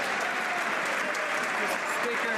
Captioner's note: some Applause